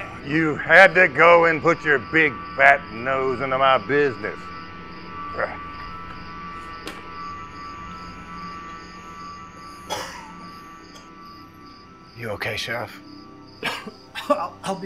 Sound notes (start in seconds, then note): 5.5 grunts; 9.9 sheriff coughs